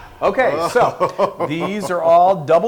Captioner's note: laugh